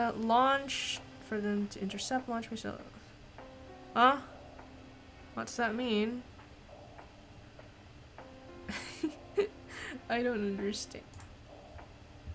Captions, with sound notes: Ah? What's that mean? [laughs] I don't understa-